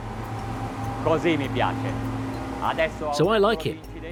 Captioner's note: speaking in foreign language